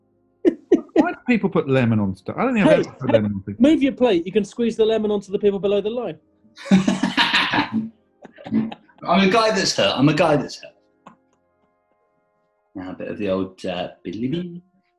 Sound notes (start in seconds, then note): 2.6 giggling; 6.6 laughter